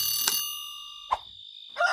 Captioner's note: alarm stops